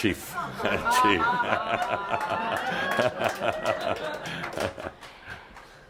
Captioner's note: laughter; laughter, Adamus chuckles